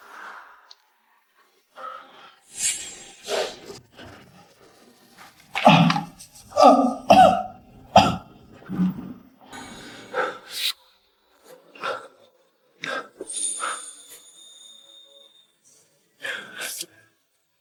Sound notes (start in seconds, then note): 6.5 cough